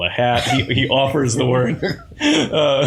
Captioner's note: laughter